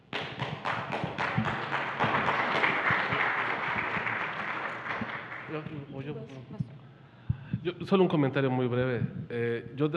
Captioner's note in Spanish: Aplausos